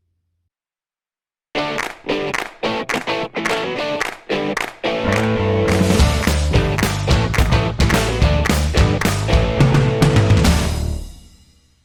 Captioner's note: claps